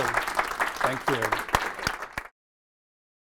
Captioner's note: applauding